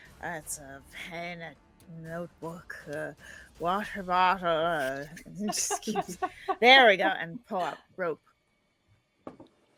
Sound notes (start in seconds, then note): 4.9 laughing